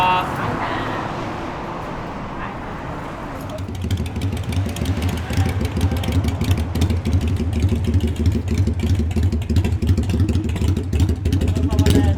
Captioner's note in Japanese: エンジン音